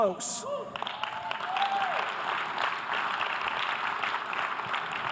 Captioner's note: audience applause